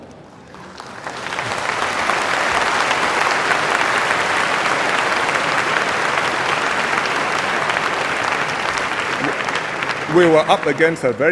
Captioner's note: applause